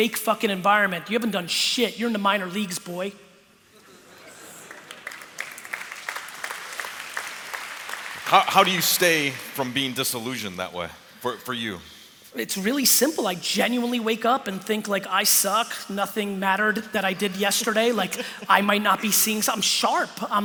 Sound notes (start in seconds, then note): 3.7 laughter; 6.1 applause